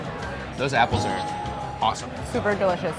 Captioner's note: bell dinging